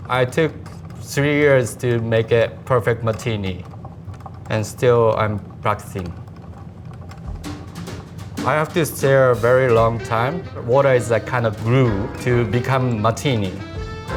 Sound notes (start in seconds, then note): 6.5 ice rattling; 7.2 lively music